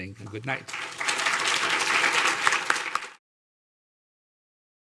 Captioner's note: audience applauding